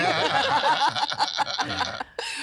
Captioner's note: laughing